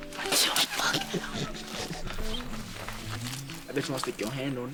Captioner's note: giggling; whispers